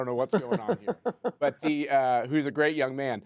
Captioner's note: laughter